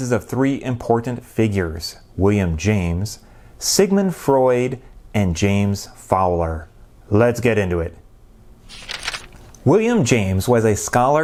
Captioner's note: page turning